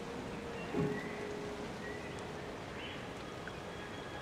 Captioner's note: calm music; birds chirping